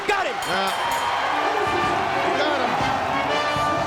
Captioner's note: bell ringing